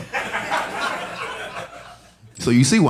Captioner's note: audience laughing